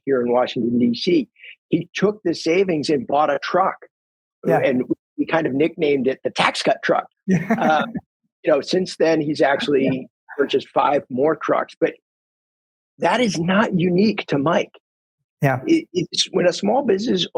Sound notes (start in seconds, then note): 7.3 laughs